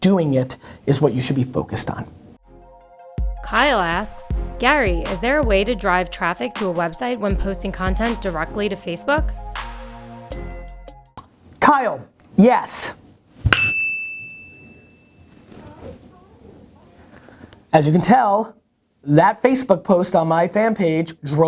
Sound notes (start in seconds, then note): 2.7 voiceover; 13.5 bell ringing